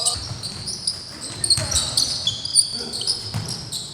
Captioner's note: shoes squeaking, basketballs bouncing